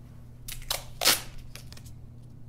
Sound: tape ripping

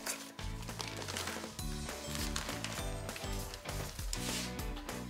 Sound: pie bag ruffling

